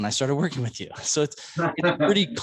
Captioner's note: laughs